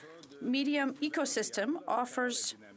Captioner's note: speaking French